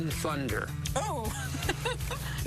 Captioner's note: laughing